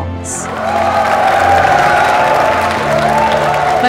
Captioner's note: All cheering, clapping